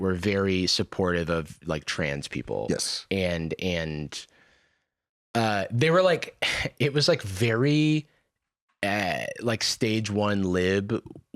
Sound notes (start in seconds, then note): none